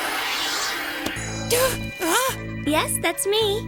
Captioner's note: surprised gasp